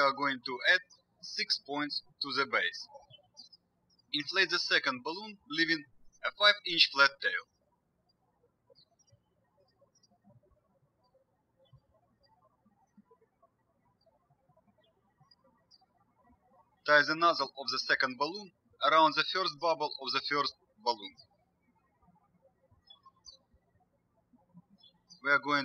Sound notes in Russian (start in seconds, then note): 9.4 птички щебечут; 22.6 птички щебечут